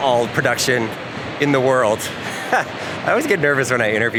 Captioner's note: chuckles